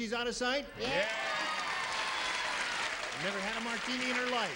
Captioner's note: audience cheers